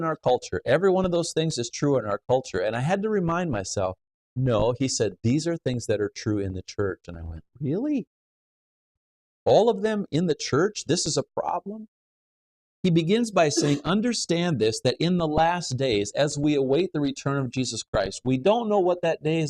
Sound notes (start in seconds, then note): 13.4 coughs